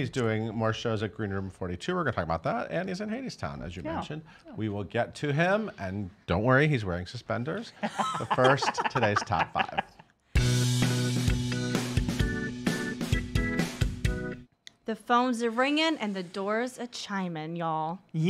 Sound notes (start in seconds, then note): 7.7 laughter; 10.4 upbeat disco music